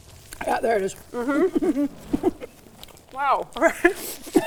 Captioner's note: laughs